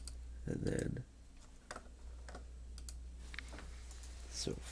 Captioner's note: clicking